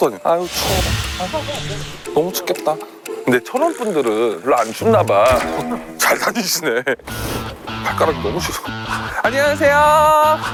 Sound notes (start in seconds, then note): 7.0 sniffle